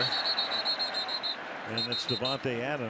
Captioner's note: whistle